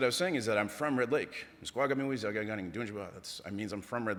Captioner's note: speaking ojibwe